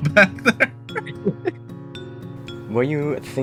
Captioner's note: both Chuckle